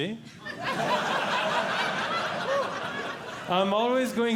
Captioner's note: audience Laughing